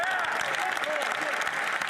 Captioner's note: some Applause